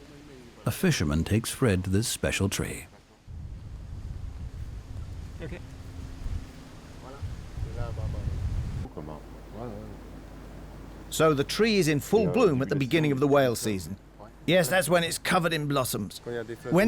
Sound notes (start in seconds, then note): 6.6 speaking French